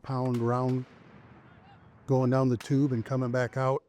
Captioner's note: mortar thundering